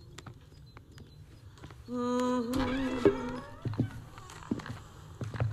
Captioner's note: woman Humming; door Creaks